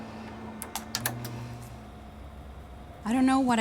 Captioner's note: computer shuts off